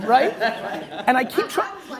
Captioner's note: laughing